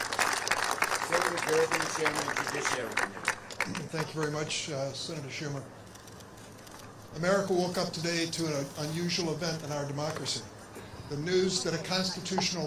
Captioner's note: applause